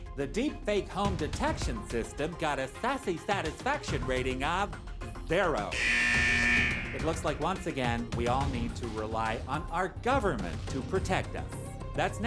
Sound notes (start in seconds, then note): 5.7 buzzer